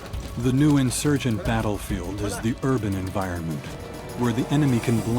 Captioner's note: voiceover